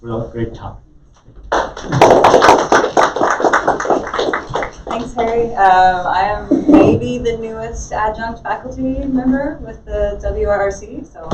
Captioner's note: clapping